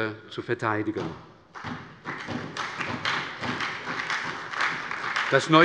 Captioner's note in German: Beifall bei der SPD und der LINKEN